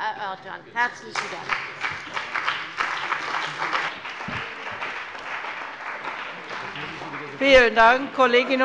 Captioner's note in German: Beifall bei dem BÜNDNIS 90/DIE GRÜNEN und der CDU